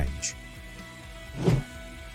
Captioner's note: whoosing sound